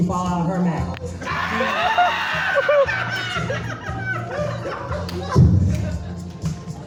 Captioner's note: hollering and clapping